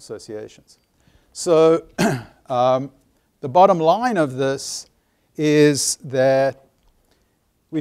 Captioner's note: cough